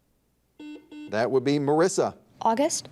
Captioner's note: buzzer dings